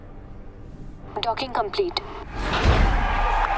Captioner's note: cheers and applause